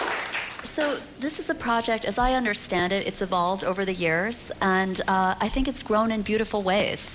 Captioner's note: applause